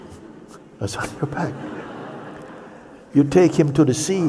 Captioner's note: laughter